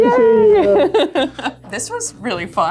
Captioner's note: laughs